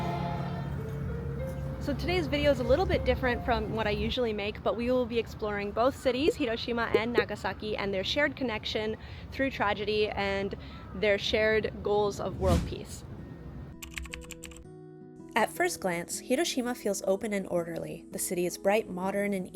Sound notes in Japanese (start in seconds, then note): 13.0 グラフィック音; 13.2 軽やかな音楽